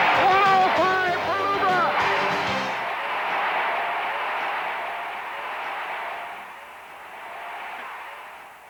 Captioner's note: cheers and applause